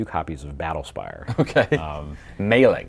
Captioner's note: chuckling